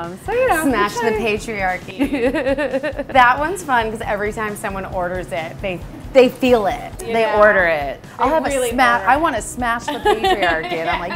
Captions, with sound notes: - So you know-- - Smash the Patriarchy. (laughs) - That one's fun 'cause every time someone orders it, they feel it. - They order it, I'll have a Smash, I want a Smash the Patriarchy!